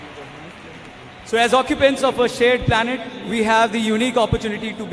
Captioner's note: cheering/Applause